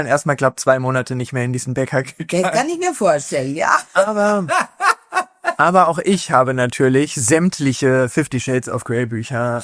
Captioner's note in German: gelächter